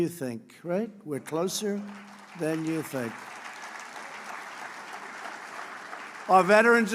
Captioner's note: applause